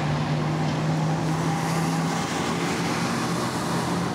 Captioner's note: traffic noise